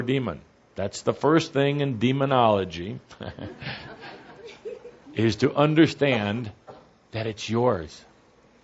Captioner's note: laughter